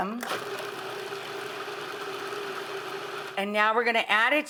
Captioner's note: food processor whirs